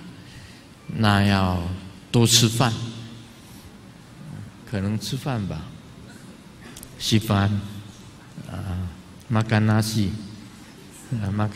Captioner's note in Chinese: 廣東話